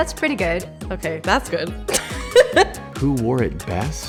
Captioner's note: laughing